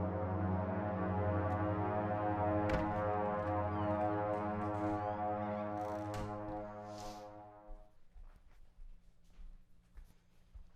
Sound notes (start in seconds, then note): 2.2 door clicking; 5.9 door thudding